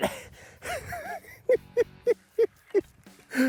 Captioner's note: laughing